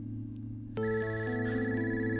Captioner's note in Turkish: Telefon sesi